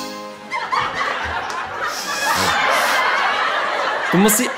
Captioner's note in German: Publikumslacher